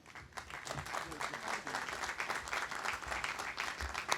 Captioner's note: audience applauding